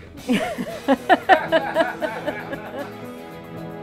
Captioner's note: laughs